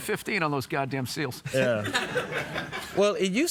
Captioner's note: audience laughs